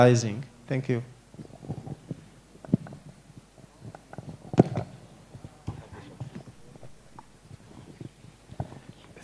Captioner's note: crowd murmurs